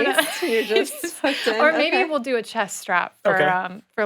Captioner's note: laughs